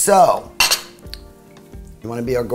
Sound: plate clinks

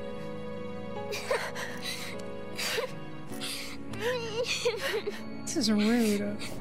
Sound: Young Aerith Crying

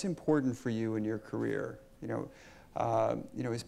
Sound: none

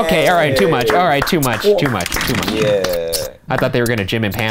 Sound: clapping

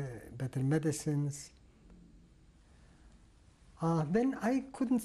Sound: pauses for 3 seconds

